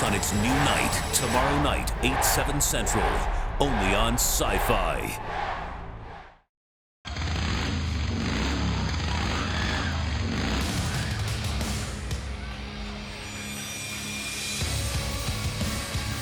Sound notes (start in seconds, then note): 7.0 engine revving